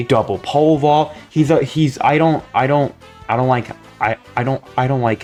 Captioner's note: stutter Moment